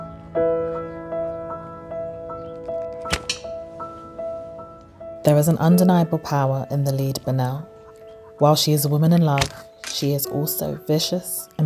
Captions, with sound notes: (stone thudding) There is an undeniable power in the lead Banel. While she is a woman in love, she is also vicious,